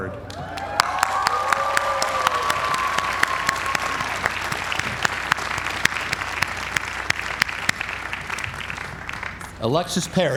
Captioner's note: applause